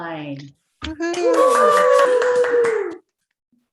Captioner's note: cheers